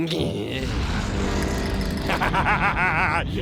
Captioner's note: volcano erupts; laughing